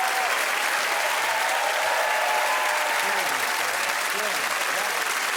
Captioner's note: wild applause and cheering